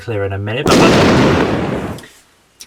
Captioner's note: explosion